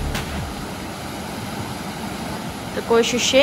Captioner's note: noise of water